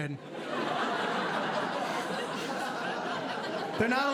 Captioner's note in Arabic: ضحك